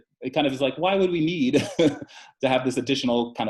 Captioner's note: chuckles